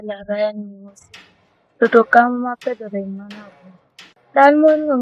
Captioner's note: sound of machine